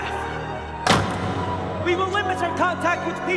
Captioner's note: door slams